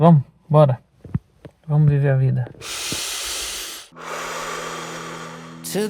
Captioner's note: snoring